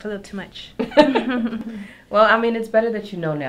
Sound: both laugh

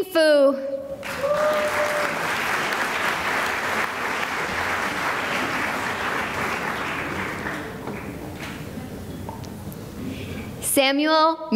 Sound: cheering and applause

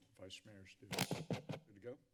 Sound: thudding sound

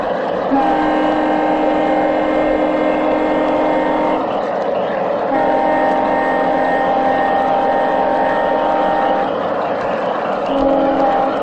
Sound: train horn

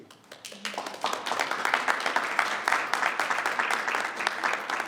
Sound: audience applauds

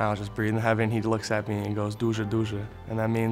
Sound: speaking foreign language

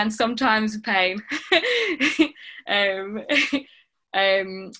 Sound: laughing

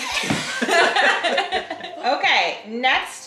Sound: family laughing

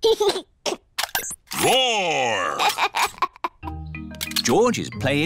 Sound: giggles; giggles

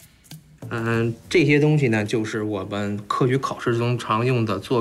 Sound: speaking Chinese

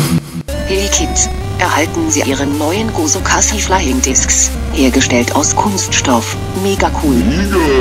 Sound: speaking german

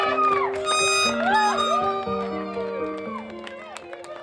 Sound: air horn blowing

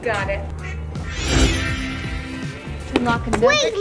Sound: magical sound

